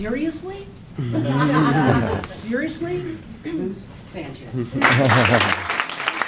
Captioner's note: laughing